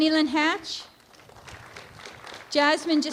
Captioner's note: applause